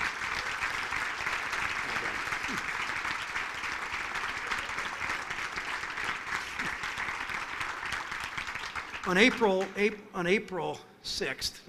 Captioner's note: applause